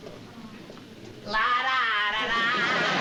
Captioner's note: impersonating jerry lewis